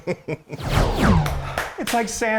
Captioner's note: chuckling